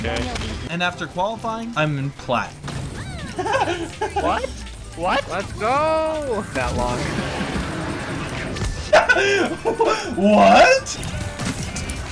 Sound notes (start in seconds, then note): 3.0 laughs